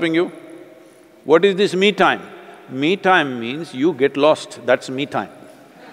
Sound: laughter/Applause

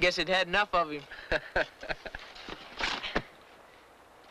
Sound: laughs

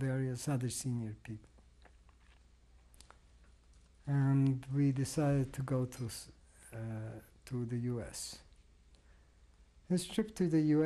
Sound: pauses for 3 seconds

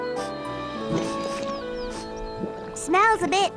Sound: squelching; sniffs

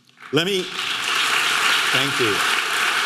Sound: audience clapping

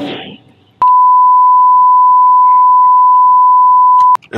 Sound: beeping

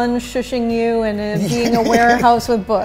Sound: laughs

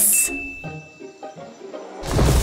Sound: thumping

